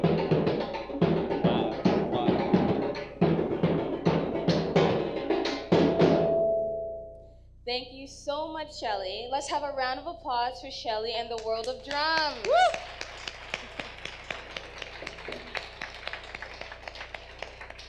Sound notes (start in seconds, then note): 5.1 drumming ends; 12.0 audience applause; 12.1 whooping